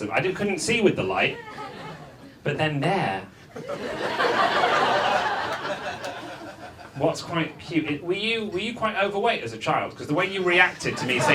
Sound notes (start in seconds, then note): 3.6 audience laughs